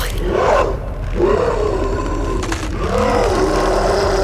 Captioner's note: Brad growling